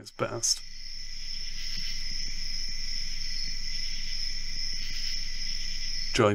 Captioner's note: chirping